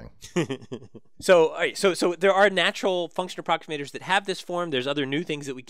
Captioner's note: laugh